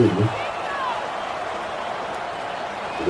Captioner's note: crowd Noises